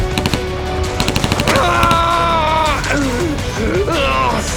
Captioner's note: cry